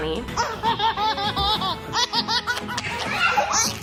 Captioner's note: laughing